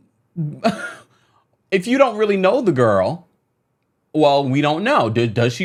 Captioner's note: laughs